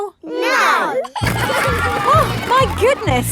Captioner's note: giggling